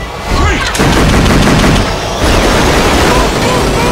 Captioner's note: guns firing